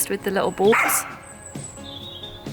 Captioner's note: dog barks